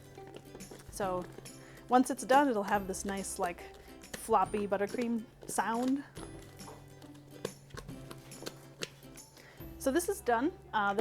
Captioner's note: flop, flop, flop